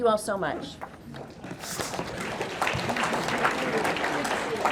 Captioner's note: audience clapping